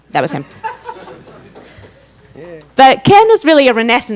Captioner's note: audience laughs